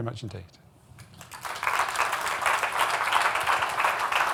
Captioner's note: applause